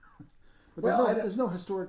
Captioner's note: laughing